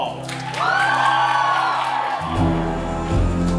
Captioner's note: audience cheering; light calming music